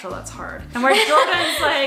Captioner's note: laughs